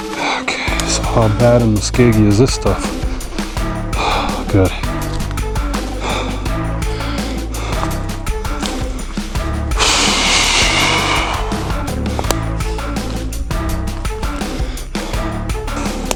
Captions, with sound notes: okay, so how bad and muskeg-ey is this stuff? *sigh* good *whew*